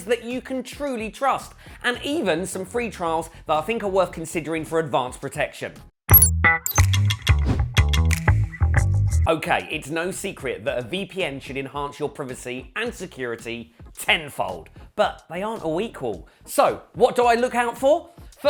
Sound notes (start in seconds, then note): 6.2 funky music; 7.4 logo whooshes